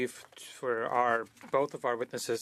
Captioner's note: speaking French